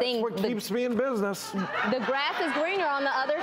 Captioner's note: audience laughs